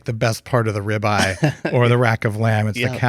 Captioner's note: laughs